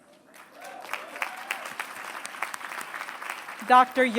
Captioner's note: applause